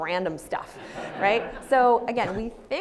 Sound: audience laughs

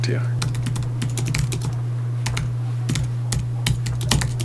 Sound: keys clacking

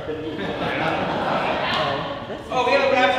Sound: audience laughing

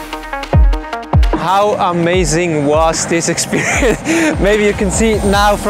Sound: chuckling

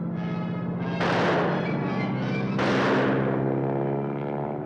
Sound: rifle firing

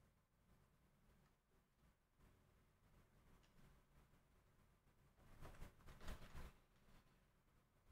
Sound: typing

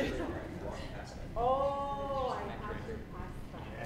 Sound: side chatter

